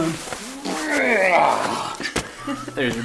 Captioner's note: monstrous birthing sound